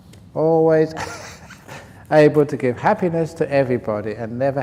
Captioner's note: laughs